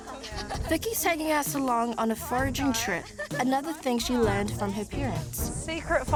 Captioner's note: all laugh